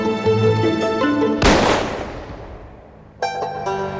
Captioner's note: gunshot